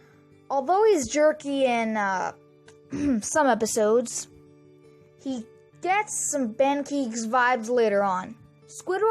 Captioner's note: clears throat